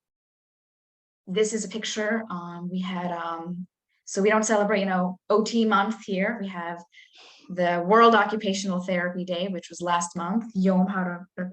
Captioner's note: Hebrew